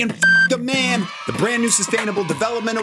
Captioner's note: beep; comic cheering